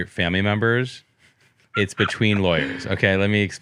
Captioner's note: laughs